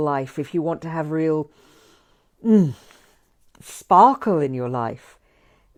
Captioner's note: inhales